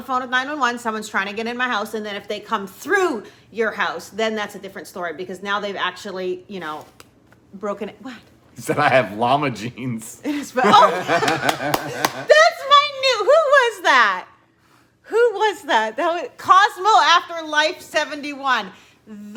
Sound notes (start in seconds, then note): 10.3 both laugh; 11.0 claps